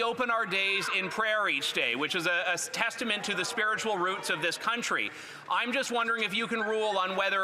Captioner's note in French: voix de l'interprète